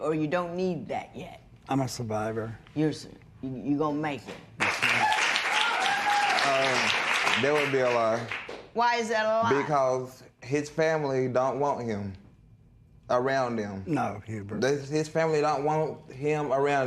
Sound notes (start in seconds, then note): 4.6 cheers and applause